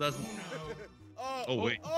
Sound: laugh

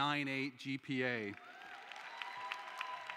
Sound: cheering

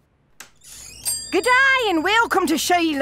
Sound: door opens; shop entry bell rings

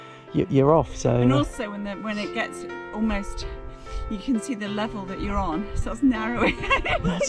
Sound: laughs

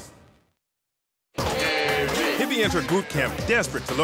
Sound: audience chanting

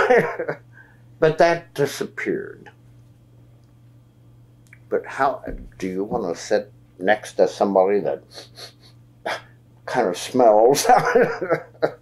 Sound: laughs

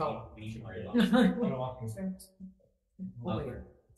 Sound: laughs

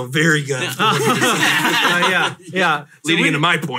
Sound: all laugh

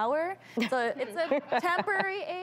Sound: laughs

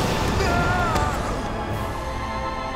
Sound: screaming

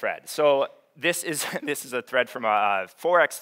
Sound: chuckles

